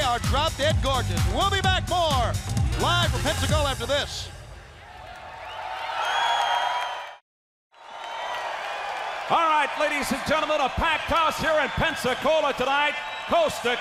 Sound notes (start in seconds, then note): 5.2 crowd cheering